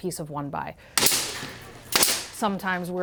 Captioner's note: nail gun popping